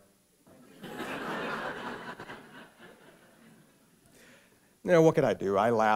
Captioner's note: laughter